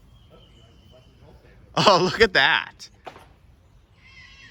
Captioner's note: chuckles